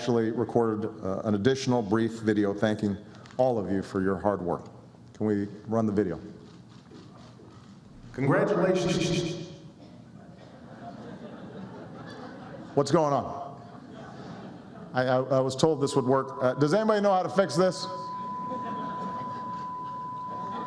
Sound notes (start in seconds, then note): 18.4 laughter